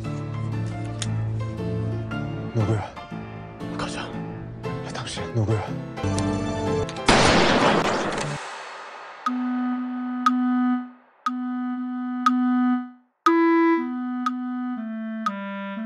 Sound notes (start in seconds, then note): 7.1 bang